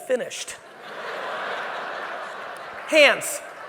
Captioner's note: audience laughing